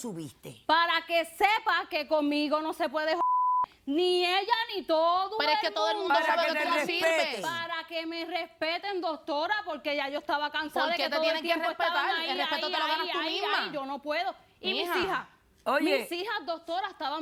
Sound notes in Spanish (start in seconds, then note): 3.2 Bip